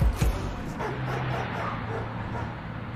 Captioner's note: voiceover